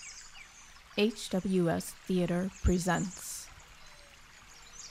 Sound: birds chirping

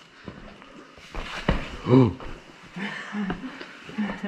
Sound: gasp; laughing

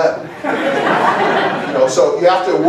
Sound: laughter

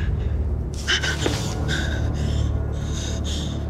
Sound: Jennifer breaths shakily

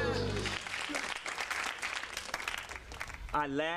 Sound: audience applause

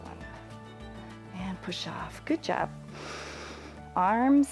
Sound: inhales

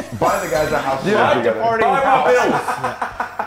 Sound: laugh

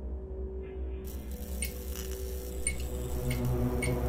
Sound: lights flicker; suspenseful music

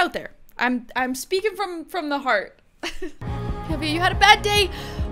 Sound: laughs

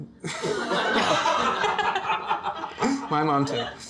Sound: laughter

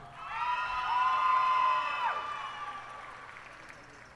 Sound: cheers and applause

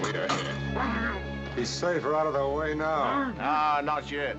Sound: muffled shouts

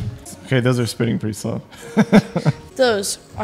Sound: laughs

